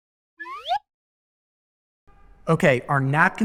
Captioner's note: slide whistle blows